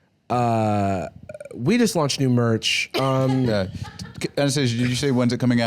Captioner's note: laughs